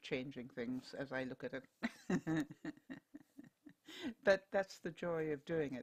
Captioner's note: laughter